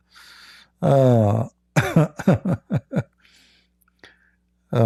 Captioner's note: Ketawa